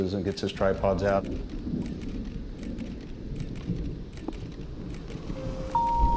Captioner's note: cameras clicking